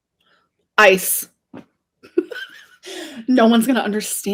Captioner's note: laughs